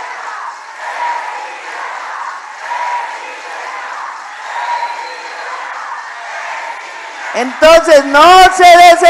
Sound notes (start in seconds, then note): 6.4 applause